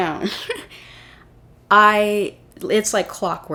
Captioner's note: laugh